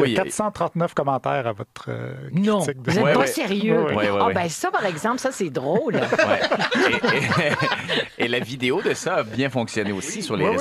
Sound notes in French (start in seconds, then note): 5.7 rires